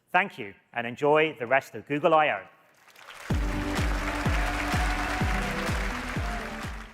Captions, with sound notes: Thank you, and enjoy the rest of Google I/O. (audience applauding) (bright upbeat music)